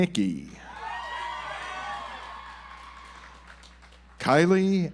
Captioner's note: audience applauds